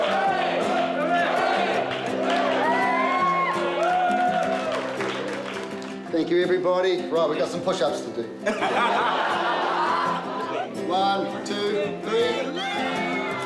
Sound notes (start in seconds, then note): 0.0 cheering, applause; 8.4 laughter